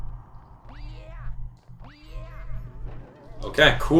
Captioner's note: game sounds